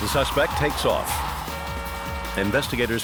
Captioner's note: honking